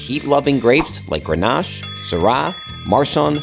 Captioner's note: bell ringing